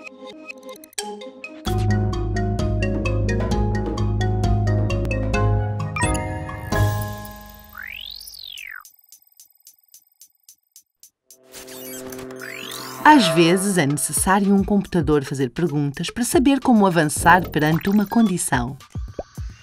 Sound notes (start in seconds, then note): 0.9 música alegre; 6.0 barulhos eletrónicos; 12.4 barulhos de drone